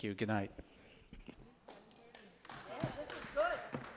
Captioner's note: group applauds